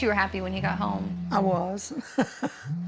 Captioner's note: laughs